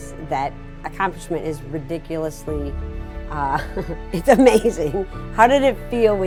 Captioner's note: chuckling